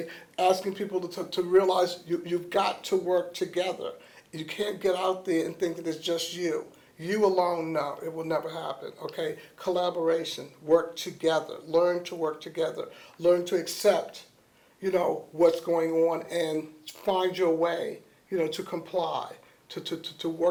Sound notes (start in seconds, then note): none